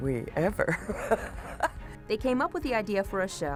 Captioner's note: laughs